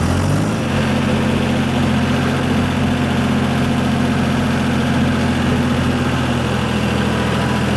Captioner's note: truck Engine Revs